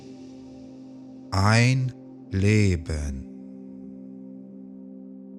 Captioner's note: german